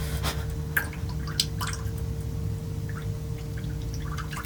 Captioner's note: water splashing